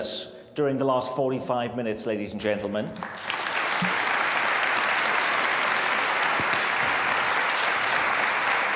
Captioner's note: applause